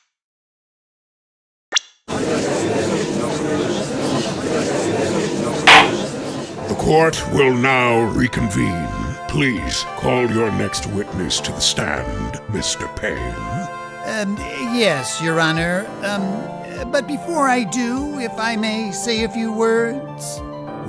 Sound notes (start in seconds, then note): 2.4 gallery chattering; 5.6 gavel slams!